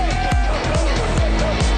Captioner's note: crowd cheers